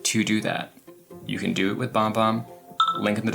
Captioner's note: phone dings